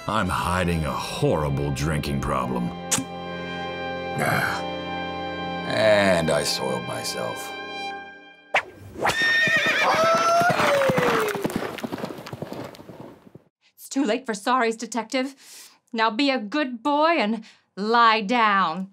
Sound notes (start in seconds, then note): 4.2 groaning; 9.0 horse whinnying